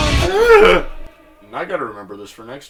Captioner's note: gasps